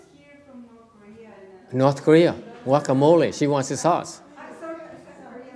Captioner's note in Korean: 청중에서 얘기 중